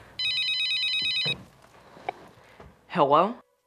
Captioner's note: phone ringing